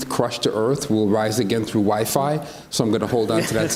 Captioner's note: others laugh